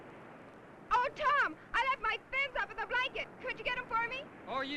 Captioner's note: none